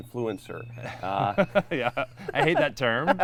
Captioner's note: laughs